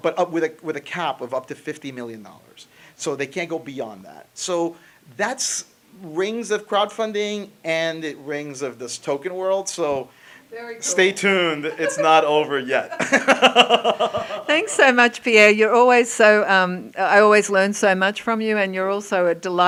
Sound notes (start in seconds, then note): 10.9 laughing